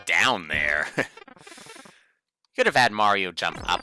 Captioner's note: inhaling